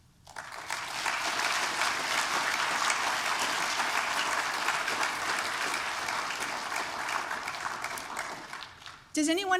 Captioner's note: applause